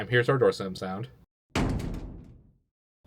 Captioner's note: door slam